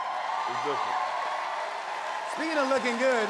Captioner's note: cheers and applause